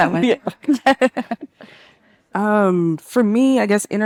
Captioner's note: participant laughing